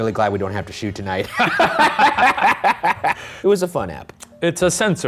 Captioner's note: both laughing